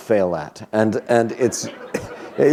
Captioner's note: laughter